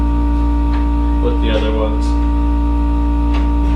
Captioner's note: buzzing